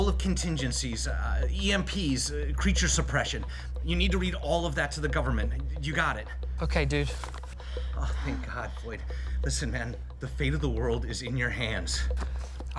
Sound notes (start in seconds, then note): none